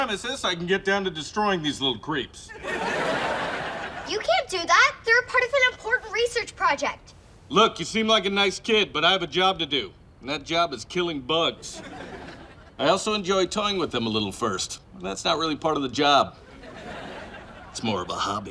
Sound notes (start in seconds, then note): 2.5 laughs; 11.6 laughs; 16.4 laughs